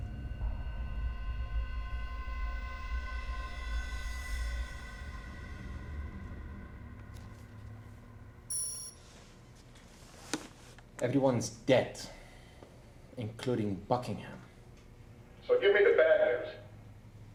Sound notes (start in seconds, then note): 8.5 beep